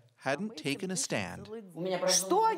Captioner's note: speaking russian